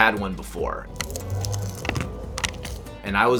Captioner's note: loud Crunching